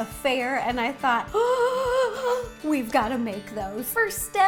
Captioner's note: gasp